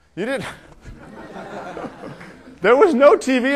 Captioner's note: laughter